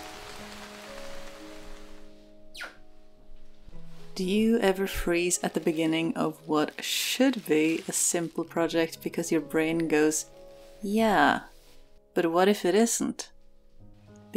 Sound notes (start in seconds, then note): 2.5 door whines